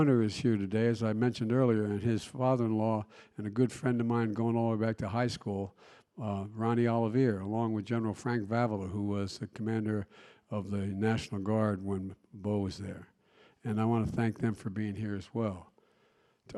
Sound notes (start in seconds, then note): none